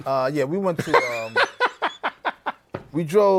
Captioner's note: laughs